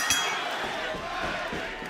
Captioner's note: bell ringing